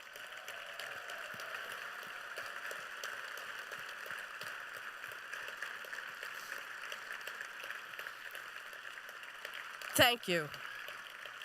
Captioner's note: applause